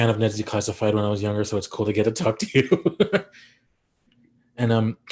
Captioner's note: chuckles